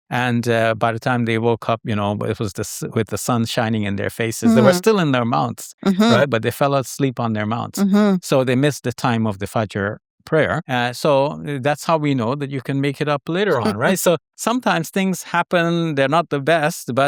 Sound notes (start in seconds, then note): 9.7 foreign language; 13.4 host chuckles